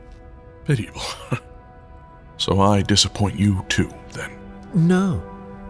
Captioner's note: scoff